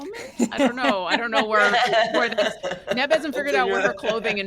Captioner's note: all laugh